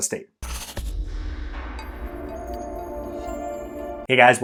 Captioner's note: air whooshing